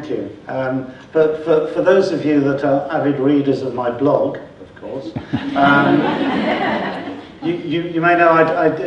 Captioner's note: laughter from audience